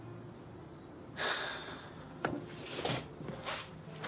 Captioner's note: sighs